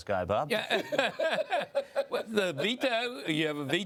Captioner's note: laughing